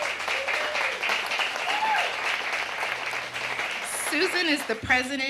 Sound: audience applauding

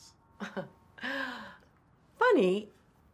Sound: Dorothy chuckles

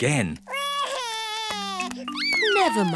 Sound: sobs

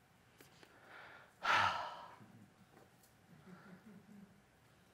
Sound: exhales and smiles

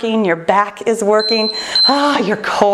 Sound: timer beeps

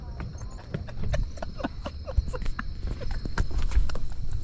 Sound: laughs

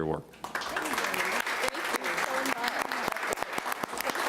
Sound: applauding

